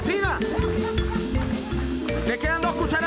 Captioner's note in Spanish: Risas